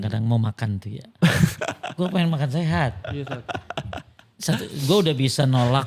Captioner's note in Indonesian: tertawa